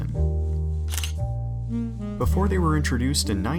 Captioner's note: camera shutter